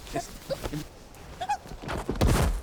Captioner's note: squeals